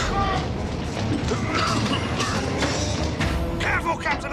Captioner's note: batuk